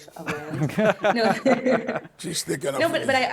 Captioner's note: panelists laughing